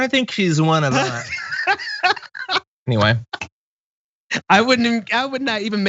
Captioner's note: laugh